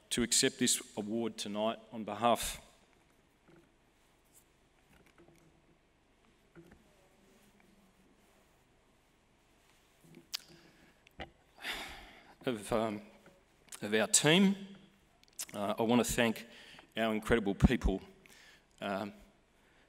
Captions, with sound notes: to accept this award tonight on behalf... (SIGHS) ..of our team. I want to thank our incredible people